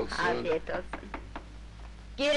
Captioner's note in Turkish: Kapı çalınma sesi